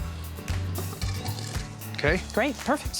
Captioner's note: scraping sound